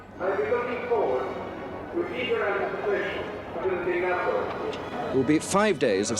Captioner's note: Charles speaks foreign language